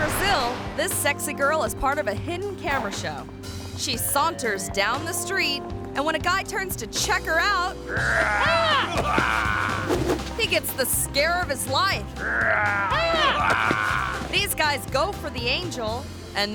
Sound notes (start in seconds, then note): 7.8 prankster growling; 12.2 prankster growling